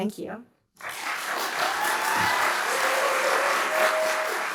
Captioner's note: applause and cheers